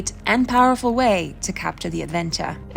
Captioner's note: none